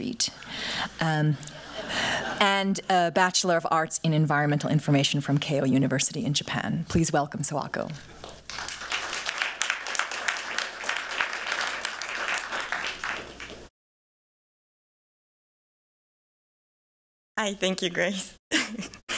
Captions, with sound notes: [laughter] --and a Bachelor of Arts in environmental information from Keio University in Japan. Please welcome Sawako. [applause] Hi, thank you, Grace.